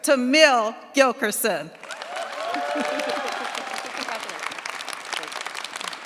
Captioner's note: cheers, applause